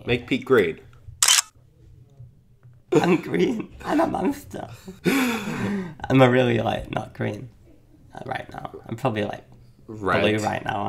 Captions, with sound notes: - Make Pete green. (mechanical clicking) - I'm green, I'm a monster. (laughing) Am I really like, not green, not right now. I'm probably like - Red. - blue right now